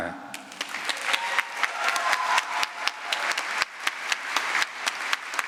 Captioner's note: applause